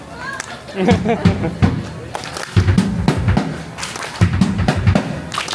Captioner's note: people laugh and clap along